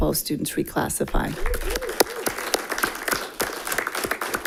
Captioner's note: all clapping